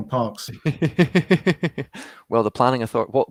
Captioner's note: laughing